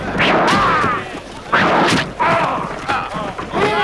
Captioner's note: men groaning